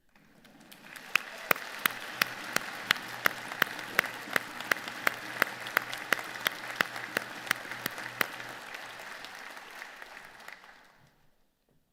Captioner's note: applause